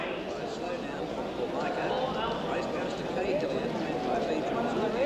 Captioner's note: crowd chattering